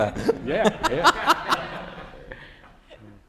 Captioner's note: laughter